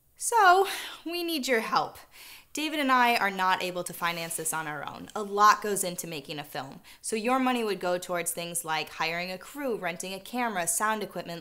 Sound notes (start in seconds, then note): none